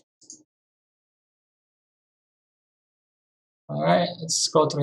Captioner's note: mouse clicking